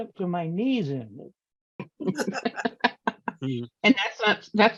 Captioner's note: laughter